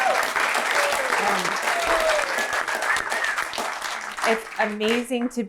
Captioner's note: applause